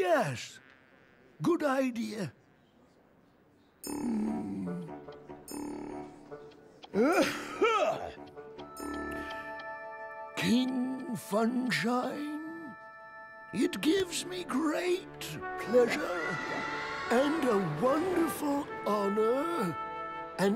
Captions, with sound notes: YES. GOOD IDEA. (BRIEF COUGHING FIT) KING FUNSHINE, IT GIVES ME GREAT PLEASURE AND A WONDERFUL HONOR,